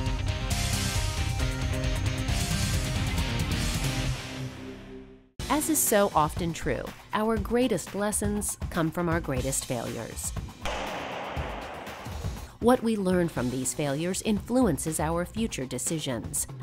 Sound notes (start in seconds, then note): 10.2 loud clatter